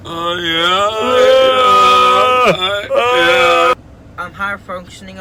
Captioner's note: todos gimiendo juguetonamente